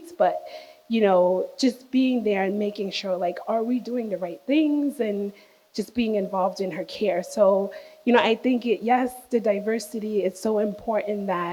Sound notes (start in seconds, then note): none